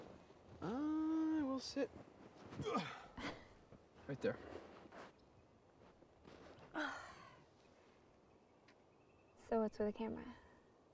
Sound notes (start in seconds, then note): 6.7 person sighing